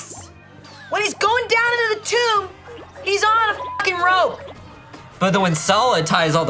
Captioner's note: beep